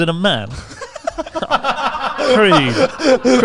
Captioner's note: all laughing